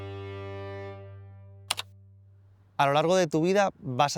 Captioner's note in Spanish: sonido de tecla